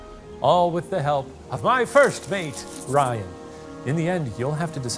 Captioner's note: paper crinkling